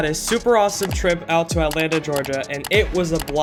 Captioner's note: occasional mouse clicks